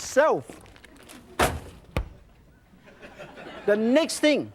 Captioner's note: audience laughs